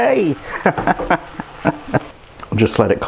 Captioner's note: laughs